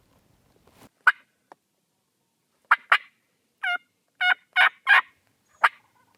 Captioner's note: turkey calling